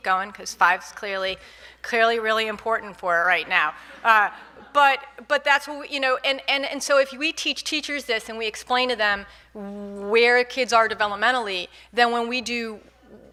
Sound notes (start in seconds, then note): 3.8 audience laughing